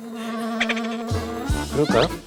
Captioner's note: cracking up at her own joke